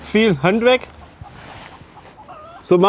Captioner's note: chickens clucking